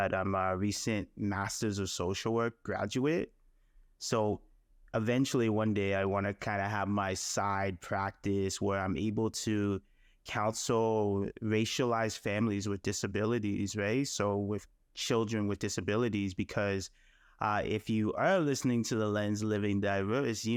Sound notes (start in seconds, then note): none